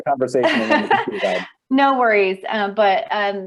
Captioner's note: laughs